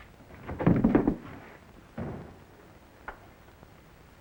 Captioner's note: thudding